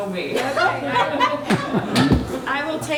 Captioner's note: members laughing